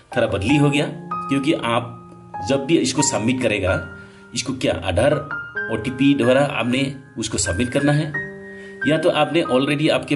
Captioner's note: in hindi